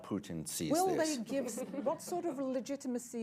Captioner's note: laughter